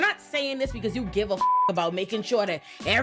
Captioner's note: beep